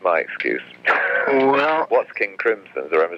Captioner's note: laughs